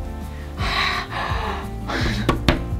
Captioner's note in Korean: 안도하는 웃음; 놀람